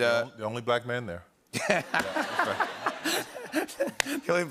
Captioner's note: laughter